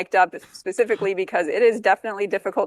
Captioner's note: laughs